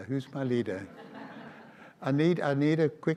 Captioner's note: audience laughs